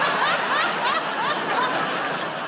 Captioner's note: laughter